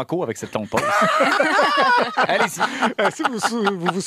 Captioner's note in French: rires